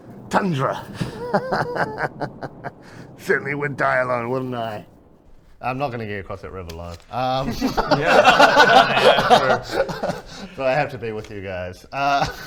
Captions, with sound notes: tundra hahahahahaha... certainly would die alone wouldn't I? I'm not gonna get across that river alive Yes... *laughs* so I have to be with you guys...errr...